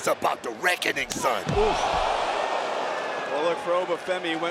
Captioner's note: audience cheering